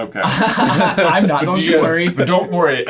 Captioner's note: laughing